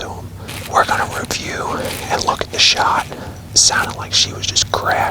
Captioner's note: whispering